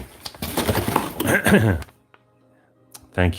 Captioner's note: clears throat